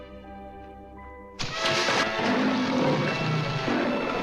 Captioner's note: leopard Growling